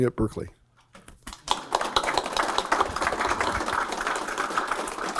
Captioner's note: applause